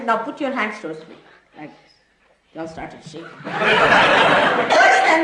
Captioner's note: laughter